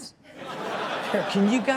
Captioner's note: all laughing